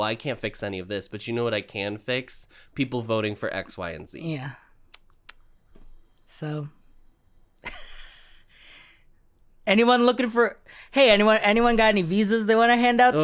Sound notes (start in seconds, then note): 7.6 quiet laughter